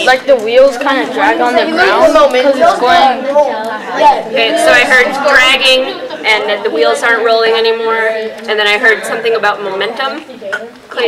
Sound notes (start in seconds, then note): 3.2 chatter